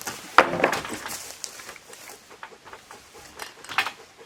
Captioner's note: panting